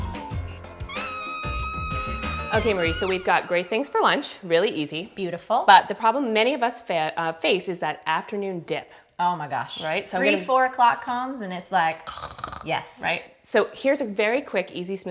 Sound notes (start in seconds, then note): 12.1 snores